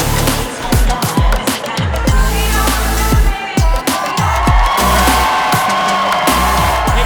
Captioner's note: crowd cheering